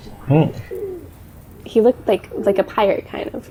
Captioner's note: pigeon sounds